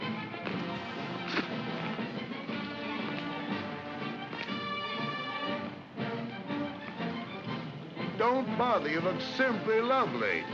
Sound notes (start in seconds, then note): 0.0 parade music; 0.6 spits; 2.6 parade music